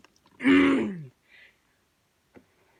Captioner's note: clears throat